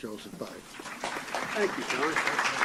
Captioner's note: applause